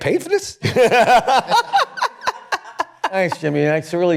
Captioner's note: laughter